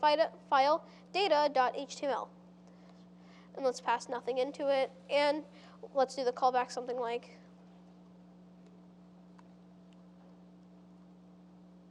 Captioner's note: pause